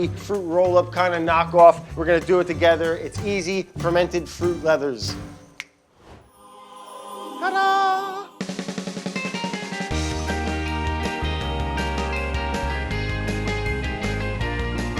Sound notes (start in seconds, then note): 5.7 snapping fingers; 6.2 angelic music; 8.5 upbeat music